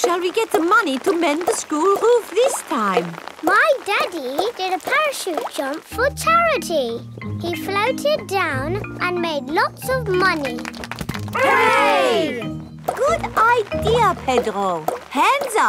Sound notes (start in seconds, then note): 10.2 crowd applauding